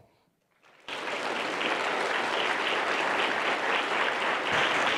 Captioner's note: applause